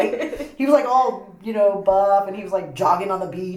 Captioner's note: laughter